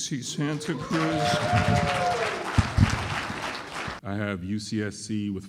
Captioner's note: applause and cheering